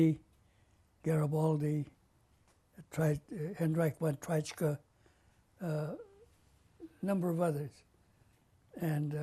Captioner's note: non-english